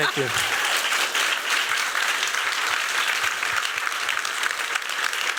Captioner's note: applause